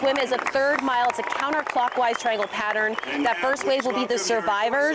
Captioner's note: applause